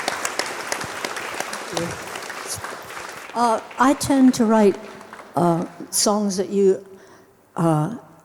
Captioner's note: audience clapping